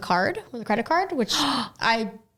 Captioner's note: gasps